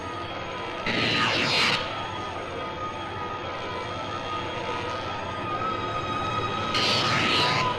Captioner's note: suspenseful music; electric zapping